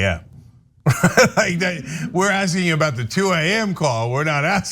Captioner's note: laugh